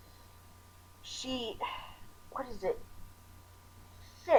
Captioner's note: sigh